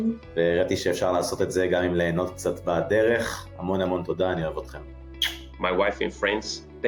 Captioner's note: non-english speech